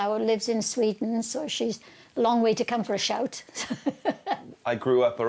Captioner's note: laughs